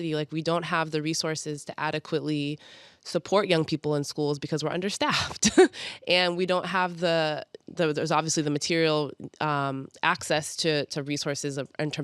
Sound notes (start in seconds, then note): 5.6 chuckles